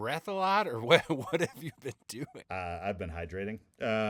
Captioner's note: laughing